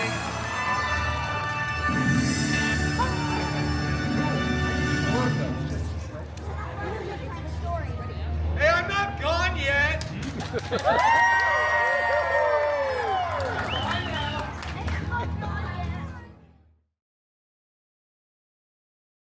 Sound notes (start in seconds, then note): 10.2 guests cheering and applauding